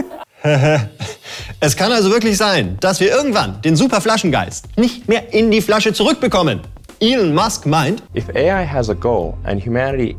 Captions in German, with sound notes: (Müdes Lachen) Es kann also wirklich sein, dass wir irgendwann den Superflaschengeist nicht mehr in die Flasche zurückkriegen. (englisch:)